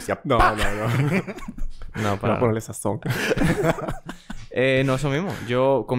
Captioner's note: laughs